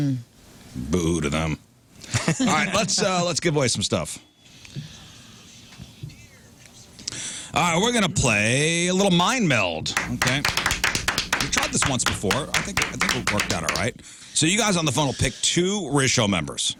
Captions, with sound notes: Boo to them. All right, let's give away some stuff. All right, we're gonna play a little mind meld. (Clapping) We've tried this once before. I think we've worked on it, all right. So you guys on the phone will pick two ratio members.